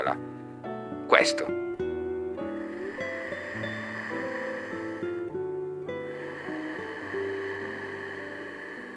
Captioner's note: ujjayi breathing